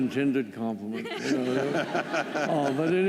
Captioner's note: laughter